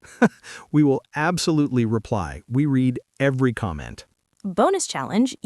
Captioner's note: laughs